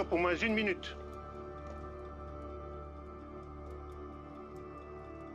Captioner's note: speaking French